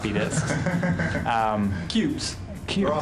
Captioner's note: laughing